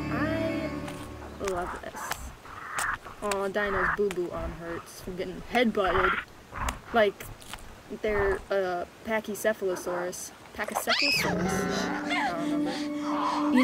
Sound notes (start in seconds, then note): 10.8 screamin and shriekin